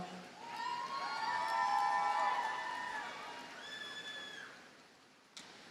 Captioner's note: audience cheers and applauds